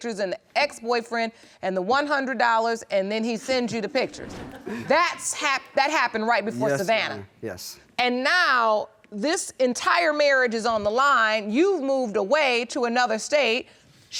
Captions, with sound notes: and the ex-boyfriend, and the $100 and then he sends you the pictures. (LAUGHS) That happened right before Savannah? Yes. And now, this entire marriage is on the line. You've moved away to another state.